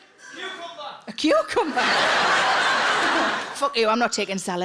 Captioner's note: audience laughing